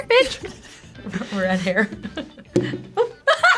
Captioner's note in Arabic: يضحك